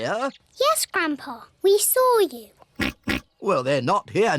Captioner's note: oinks